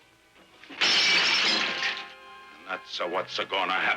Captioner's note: glass smashing